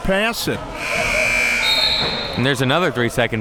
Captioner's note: buzzer blaring